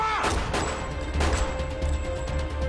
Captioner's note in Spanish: Disparos